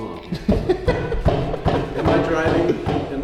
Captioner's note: laughs